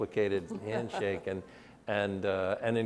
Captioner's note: laughs